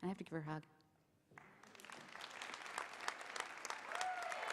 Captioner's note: applause